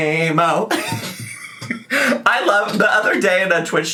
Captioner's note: laughs